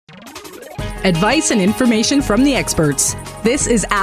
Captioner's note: voiceover